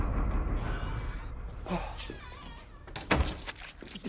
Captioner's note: door creaks; door slams